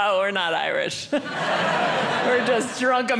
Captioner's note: audience laughing